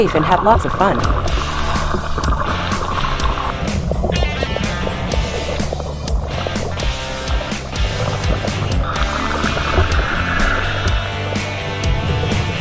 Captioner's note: scuba Sounds